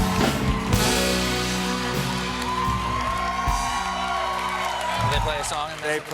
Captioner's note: cheers